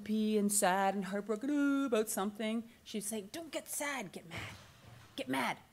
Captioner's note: moans